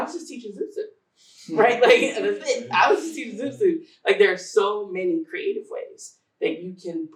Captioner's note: laughter